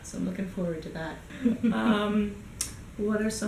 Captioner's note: giggles